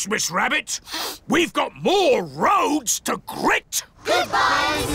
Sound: sniffs

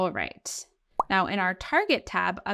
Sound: text overlay blooping

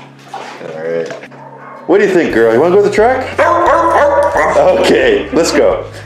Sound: dog barking

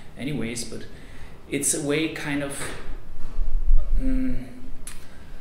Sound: sighs

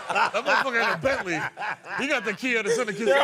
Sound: laughing

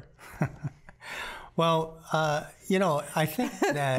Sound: chuckling

